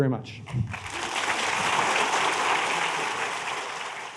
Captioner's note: applause